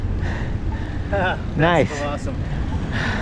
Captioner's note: laughs